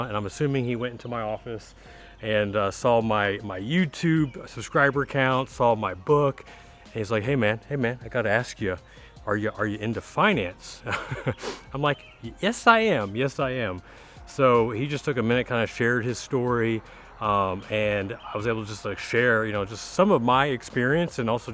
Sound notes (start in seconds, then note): 10.8 laughing